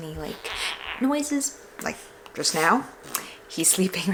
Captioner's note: whimpers